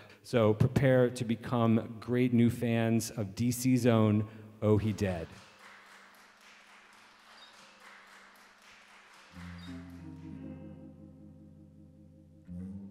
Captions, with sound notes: So, prepare to become great new fans of DC's own Oh He Dead. (audience clapping) (gentle guitar music)